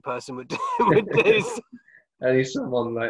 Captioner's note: laughs